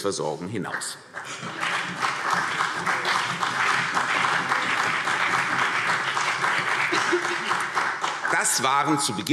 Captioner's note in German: Beifall CDU und BÜNDNIS 90/DIE GRÜNEN